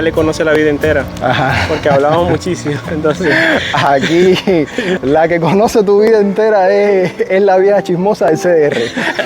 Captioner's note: laughs